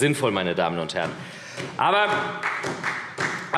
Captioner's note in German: Beifall SPD